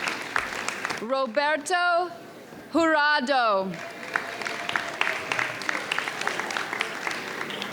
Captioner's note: audience cheers